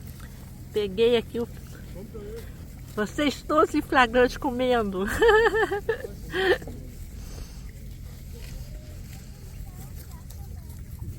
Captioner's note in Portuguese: risos